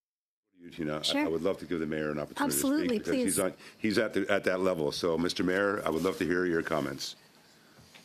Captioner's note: speaking French